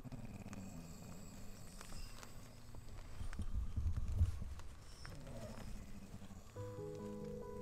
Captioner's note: snoring